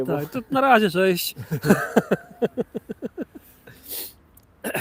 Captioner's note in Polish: śmiech